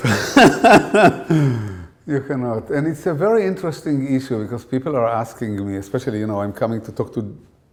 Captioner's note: laughter